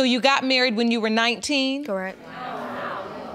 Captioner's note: audience exclaiming